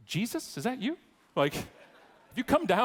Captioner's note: audience laughing